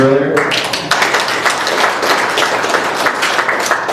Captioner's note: applause